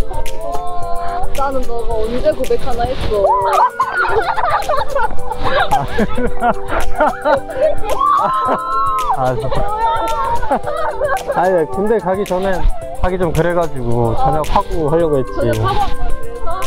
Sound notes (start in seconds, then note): 3.4 Great laugh; 7.9 Scream